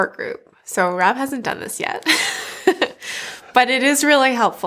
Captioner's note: laughs